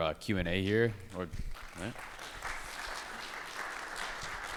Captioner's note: crowd applauds